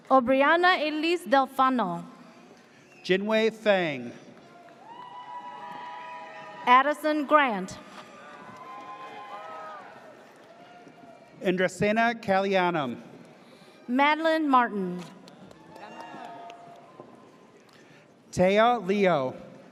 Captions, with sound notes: - Obrianna Elise Delfano. - Jinwe Feng. (audience cheers) - Addison Grant. (audience cheers) - Andresina Callianum. - Madeline Martin. (audience cheers) - Taya Leo.